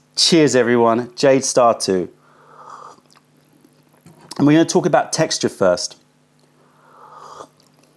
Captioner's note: sips tea; sips tea